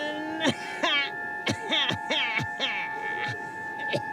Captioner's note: evil laugh; coughs diabolically